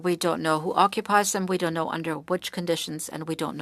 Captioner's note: speaking French